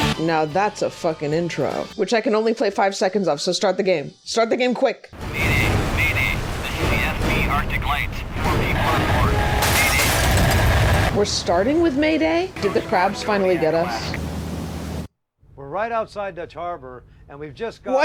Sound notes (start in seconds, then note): 5.2 rumbling and Mayday radio chatter